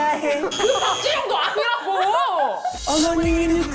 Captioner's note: wrong answer sound